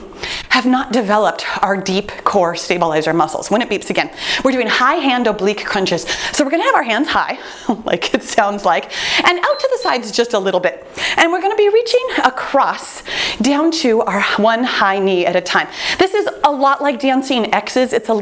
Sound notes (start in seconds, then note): 8.1 chuckles; 9.4 timer beeps